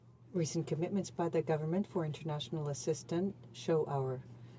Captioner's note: speaking French